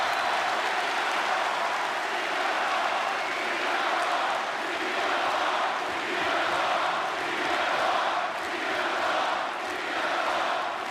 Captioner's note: crowd cheering